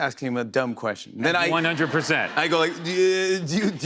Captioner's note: laughter